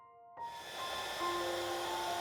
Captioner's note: whirring of heat-gun